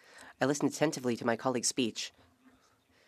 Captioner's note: speaking French